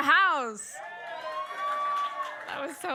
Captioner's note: audience cheers